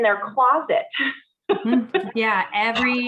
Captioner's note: woman laughing